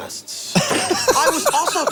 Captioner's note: Glenn laughs